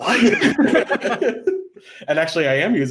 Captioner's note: laughing